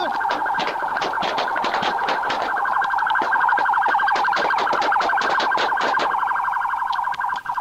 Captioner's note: more gunshots